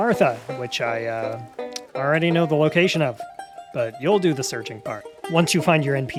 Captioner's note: clicks